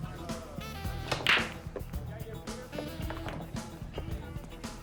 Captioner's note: balls clacking